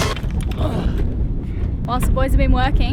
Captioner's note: grunt